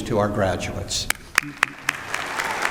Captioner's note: applause